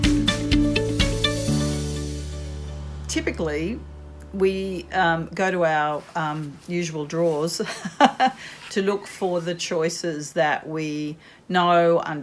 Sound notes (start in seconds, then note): 0.0 bright music; 7.7 laughs